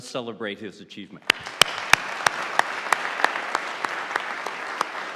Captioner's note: audience applauding